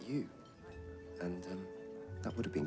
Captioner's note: none